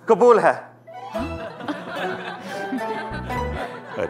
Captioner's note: All laughing